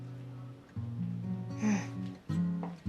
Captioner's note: SlGHS